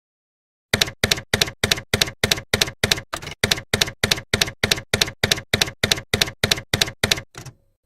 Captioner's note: typewriter keys clacking